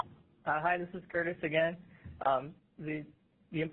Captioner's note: voiceover